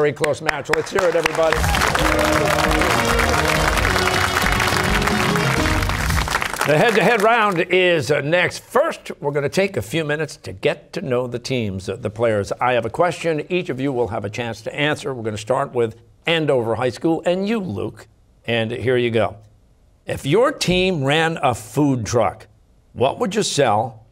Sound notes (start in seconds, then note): 0.7 cheers and applause